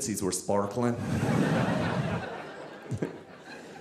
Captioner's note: audience laughing